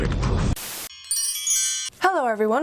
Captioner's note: chimes